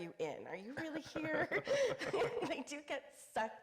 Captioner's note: laughing